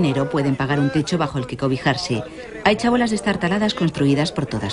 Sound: audio in Spanish

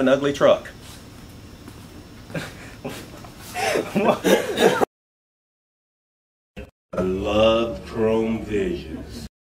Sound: laughs

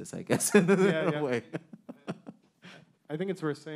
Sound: man laughing

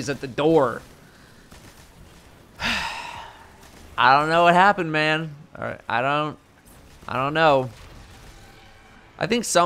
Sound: sigh

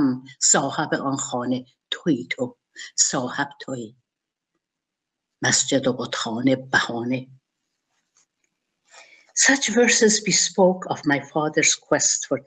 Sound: speaking in Persian

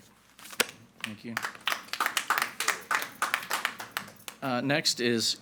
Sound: everyone applauding

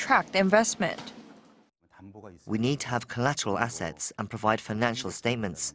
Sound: Korean

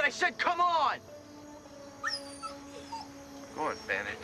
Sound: whining

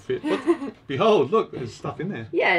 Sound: laughs

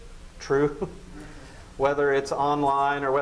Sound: laughs

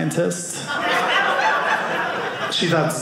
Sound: audience laughing

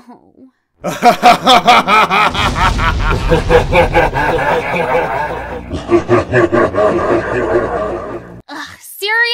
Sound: groan; evil laugh

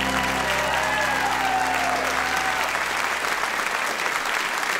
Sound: cheers and applause

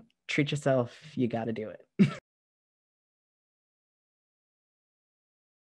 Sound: laughter

